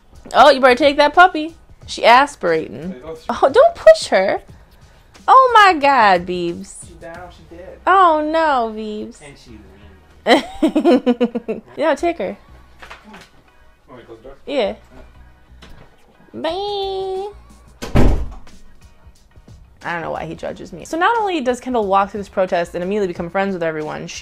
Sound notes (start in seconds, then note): 10.2 laughs; 17.8 door closes